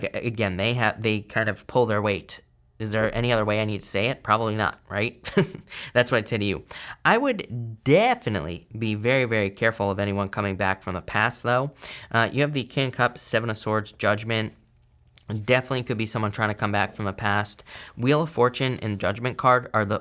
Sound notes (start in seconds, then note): 5.2 chuckles